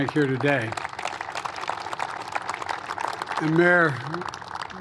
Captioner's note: applause